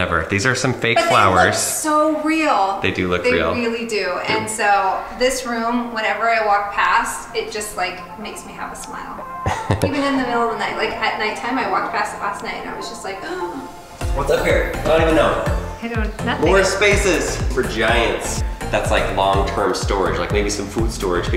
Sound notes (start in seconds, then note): 9.4 laughs; 18.0 bouncy music